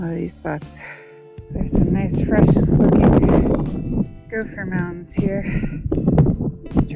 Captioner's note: wind noise